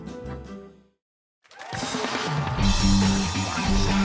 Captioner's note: cheers and applause